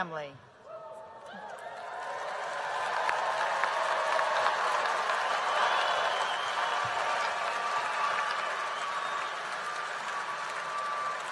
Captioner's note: applause